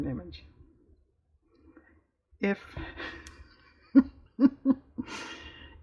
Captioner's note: laughs